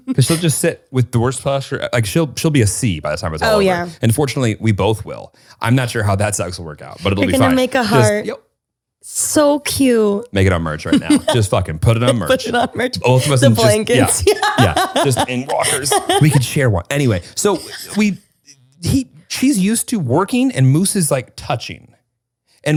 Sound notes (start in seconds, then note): 14.4 laughs